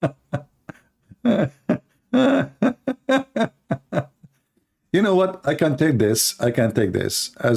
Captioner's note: Ketawa